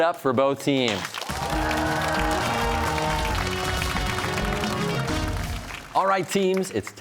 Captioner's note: cheers and applause